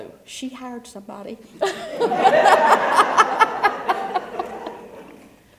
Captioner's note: laugh